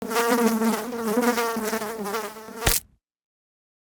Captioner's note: fly buzzing; fly splatting